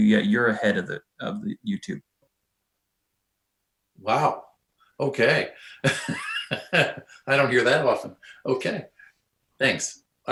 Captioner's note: laughs